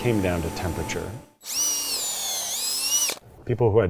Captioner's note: drill whirring